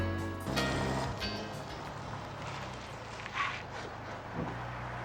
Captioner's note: engine roaring